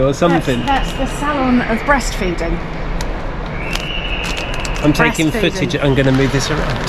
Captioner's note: laughs